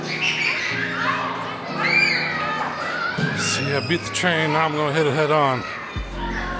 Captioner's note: children chattering